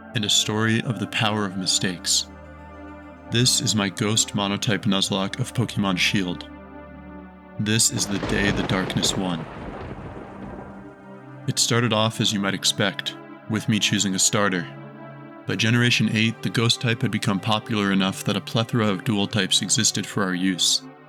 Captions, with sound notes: and a story of the power of mistakes. This is my Ghost Monotype Nuzlocke of Pokemon Shield. This is The Day the Darkness Won *thunderclap*. It started off as you might expect with me choosing a starter. By generation 8 the ghost type had become popular enough that a plethora of dual-types existed for our use.